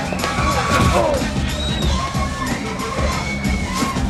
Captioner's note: Boris grunts